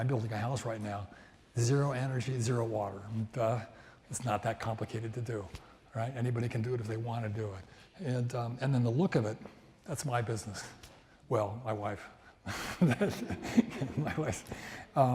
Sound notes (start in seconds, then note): 12.6 laughs